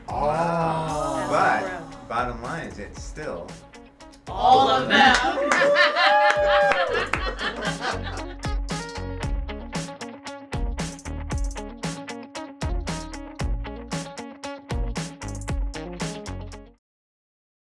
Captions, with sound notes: They fuse together. Oh. But, bottom line is that's still all of them. (laughing) (hooting) (funky music)